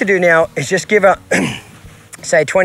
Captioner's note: throat clearing